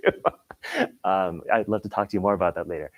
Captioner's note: laughing